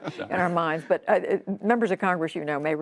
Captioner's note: laughter